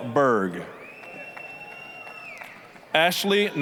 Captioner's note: applause, cheering